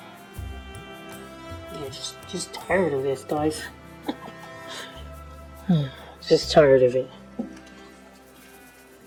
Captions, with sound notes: Yeah. Just just tired of this, guys. (Chuckling). (Sighs), Just tired of it.